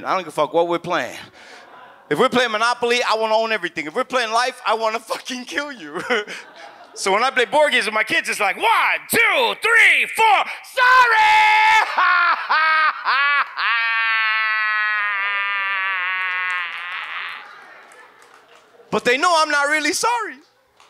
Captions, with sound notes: I don't give a fuck what we're playing. (audience chuckles) If we're playing Monopoly, I wanna own everything. If we're playing Life, I want to fucking kill you (chuckles). (audience laughs) So when I play board games with my kids, it's like, "One, two, three, four, sorry!" (guffaws) (audience laughs) But they know I'm not really sorry!